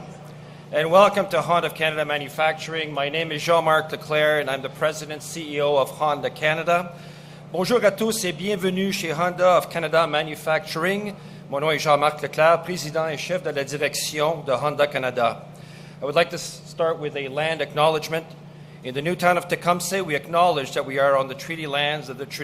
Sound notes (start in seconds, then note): 8.3 speaks French